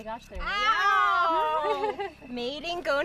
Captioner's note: laughing